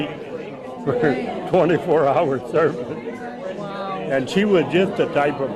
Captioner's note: laughs